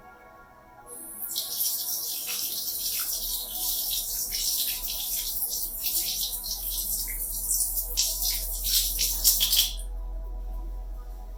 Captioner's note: water resumes